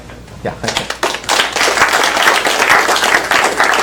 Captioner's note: applause